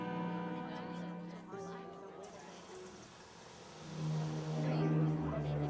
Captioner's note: people chattering; foreboding music